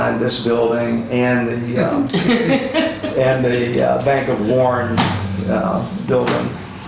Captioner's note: laughter